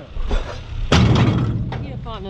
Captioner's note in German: kraaach